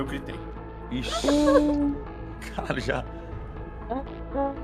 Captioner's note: tearful laughter